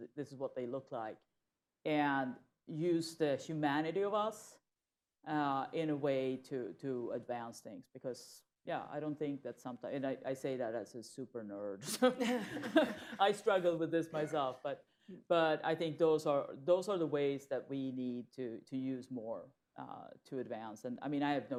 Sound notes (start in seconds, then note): 12.1 laughter